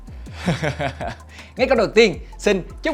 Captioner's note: laugh